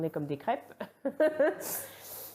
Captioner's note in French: rire